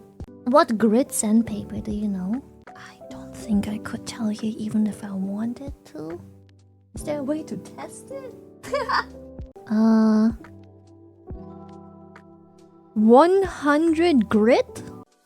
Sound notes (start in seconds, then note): 8.6 laughs